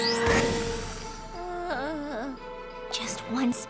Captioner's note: moans